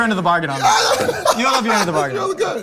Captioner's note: Terry laughing